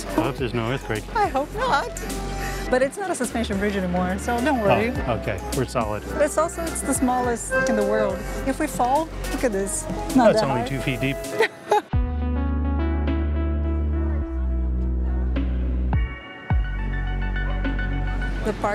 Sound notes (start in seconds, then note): 11.2 laughs